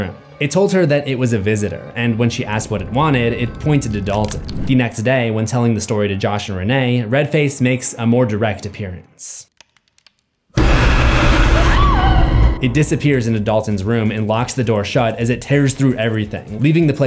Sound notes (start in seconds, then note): 10.6 demonic roar; 10.6 scream